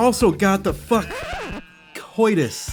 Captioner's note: record scratch